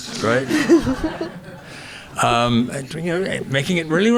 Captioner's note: audience laughing